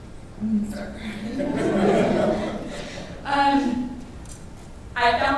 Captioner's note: laughing